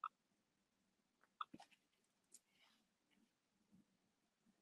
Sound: keyboard clicking

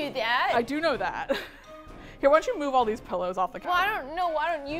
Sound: laughs

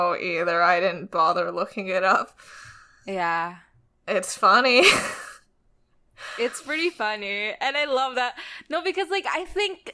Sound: laughs

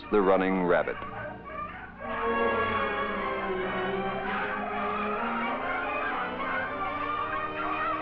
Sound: beagles baying

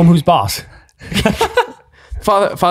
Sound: both laugh

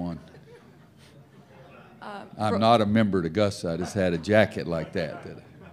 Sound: laughter

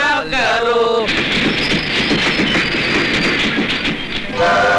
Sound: train rumbling

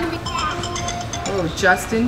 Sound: phone alarm rings

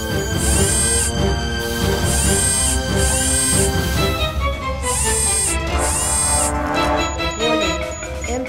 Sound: machinery whirring

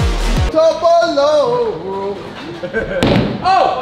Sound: lads chanting

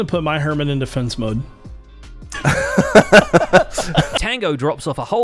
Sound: laughs

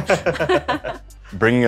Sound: laughter

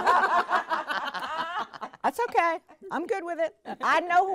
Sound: all laughing

